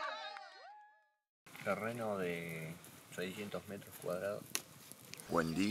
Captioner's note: chatting